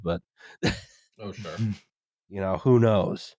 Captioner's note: laughs